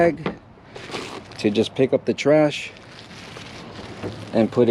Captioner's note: plastic bag rustling